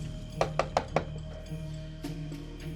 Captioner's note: knocking